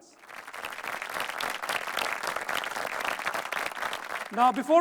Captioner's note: audience applauding